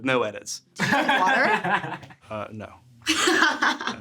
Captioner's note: laughing